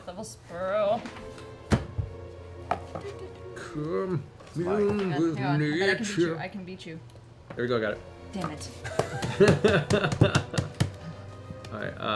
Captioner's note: laugh